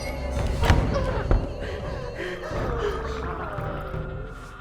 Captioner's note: door thuds; Claire gasps; doll mumbling eerily